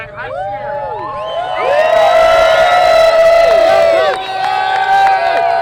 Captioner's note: cheering and applause